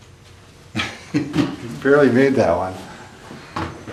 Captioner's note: laughs